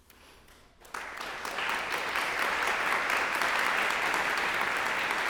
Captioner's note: applause